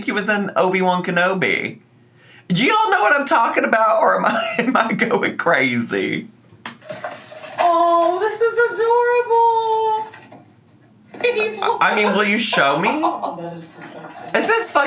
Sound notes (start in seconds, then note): 4.2 laughs